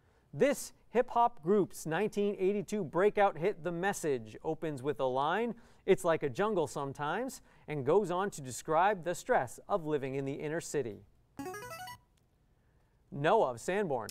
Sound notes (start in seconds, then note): 11.4 player buzzer